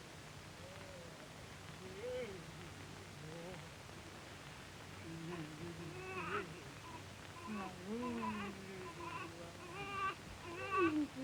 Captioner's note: nurse cooing to him